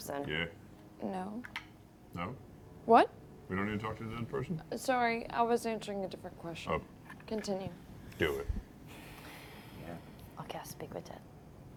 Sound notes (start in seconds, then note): none